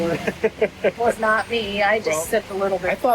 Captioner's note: laughs